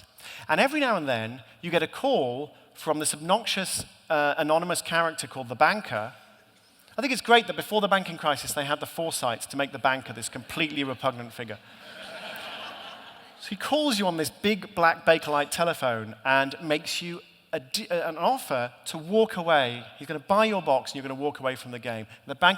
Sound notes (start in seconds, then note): 11.6 laughter